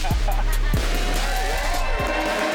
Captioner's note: crowd cheering; crowd applauding